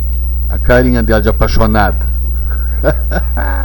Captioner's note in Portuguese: risos